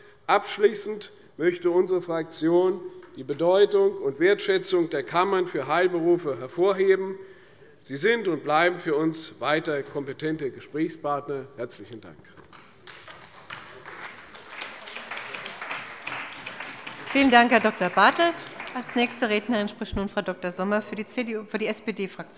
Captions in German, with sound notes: Abschließend möchte unsere Fraktion die Bedeutung und Wertschätzung der Kammern für Heilberufe hervorheben. Sie sind und bleiben für uns weiterhin kompetente Gesprächspartner. (Beifall bei Abgeordneten der CDU und des BÜNDNISSES 90/DIE GRÜNEN) Vielen Dank, Herr Dr.Bartelt. - Als nächste Rednerin spricht nun Frau Dr.Sommer für die Fraktion der SPD.